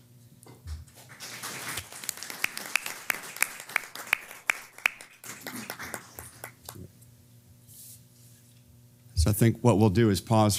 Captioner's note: applause